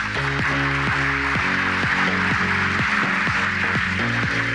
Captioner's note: audience applauding